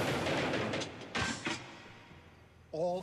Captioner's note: banging